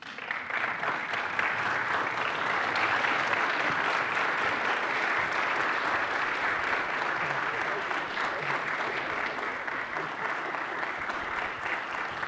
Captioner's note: applause